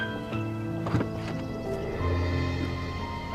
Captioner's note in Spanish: Puerta de auto se abre